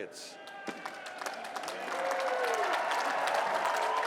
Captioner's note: cheering